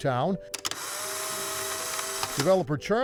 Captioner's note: camera snapping